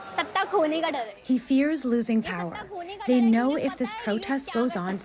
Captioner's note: through translator